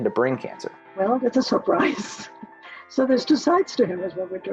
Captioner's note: chuckles